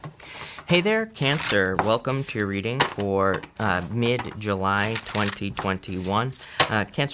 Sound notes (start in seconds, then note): 1.0 cards shuffling